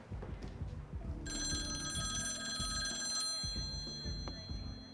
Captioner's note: phone ringing